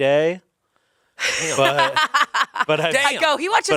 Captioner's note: laughs